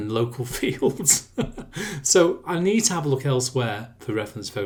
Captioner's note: laughs